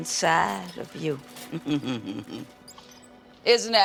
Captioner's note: chuckles